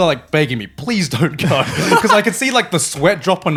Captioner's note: laughing